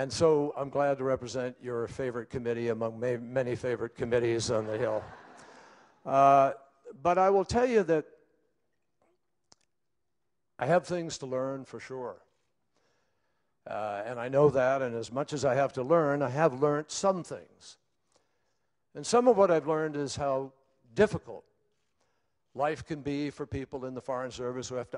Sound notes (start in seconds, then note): 6.6 laughter